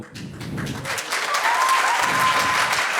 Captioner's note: audience applauds